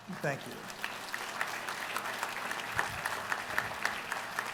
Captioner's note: applause